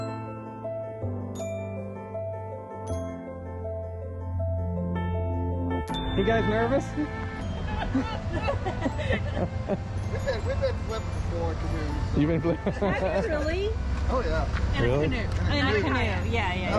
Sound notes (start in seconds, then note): 8.6 is making a crying sound